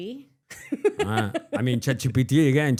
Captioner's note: laughs